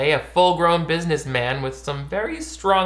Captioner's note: none